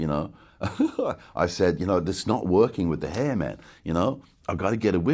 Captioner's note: giggles